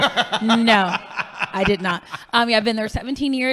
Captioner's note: laughing